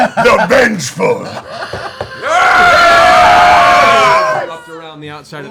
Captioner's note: cheering